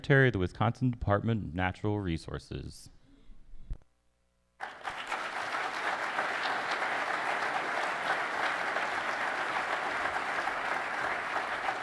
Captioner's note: applause